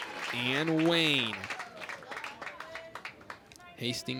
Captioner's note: crowd applauds